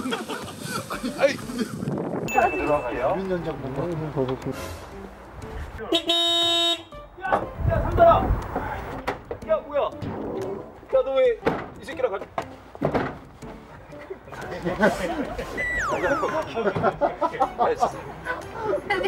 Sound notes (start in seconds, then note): 0.0 bursts out laughing when he sees that; 10.0 thudding